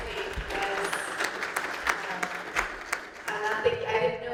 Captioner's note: applause